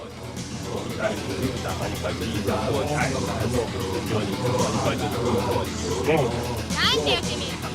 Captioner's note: japanese sounding gibberish